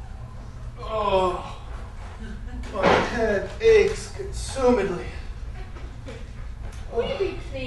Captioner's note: groan